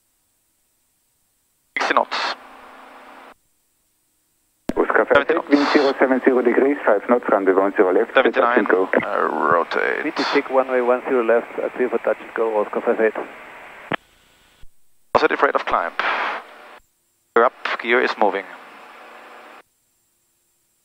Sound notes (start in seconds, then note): 4.5 tower talking to another aircraft in the pattern